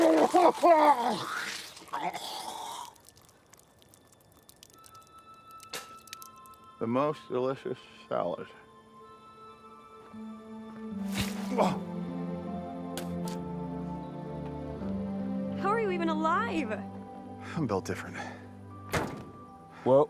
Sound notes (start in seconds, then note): 0.0 Walter sputtering; 4.9 eerie music; 11.4 Walter gasps; 11.4 gentle music